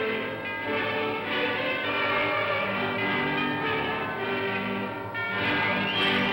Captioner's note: bells ringing; music plays